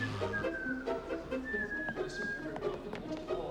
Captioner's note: whistles